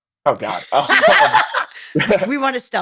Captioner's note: laughing